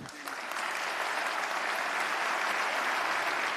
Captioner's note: applause